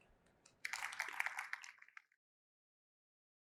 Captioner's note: applause